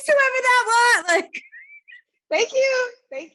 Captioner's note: laughing